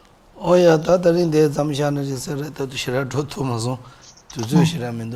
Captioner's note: speaking foreign language